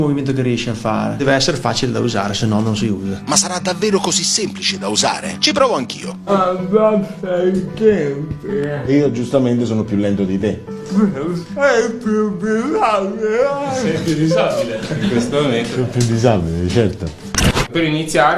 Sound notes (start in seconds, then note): 8.0 laughs; 11.0 laughs